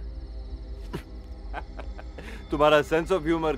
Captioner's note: Laughing